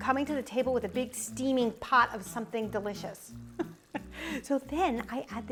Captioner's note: laughs